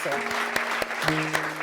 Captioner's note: applause